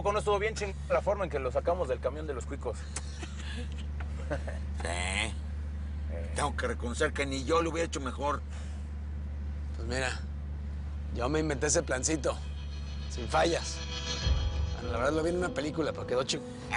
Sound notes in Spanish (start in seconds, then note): 2.9 Risas